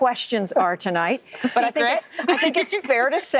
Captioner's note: laughter